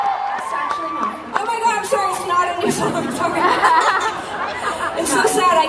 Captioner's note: laughing